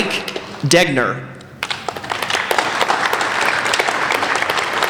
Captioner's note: applauding